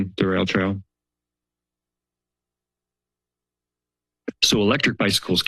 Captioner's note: silence